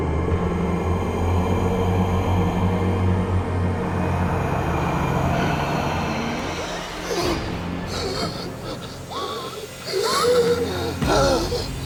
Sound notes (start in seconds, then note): 6.4 gasping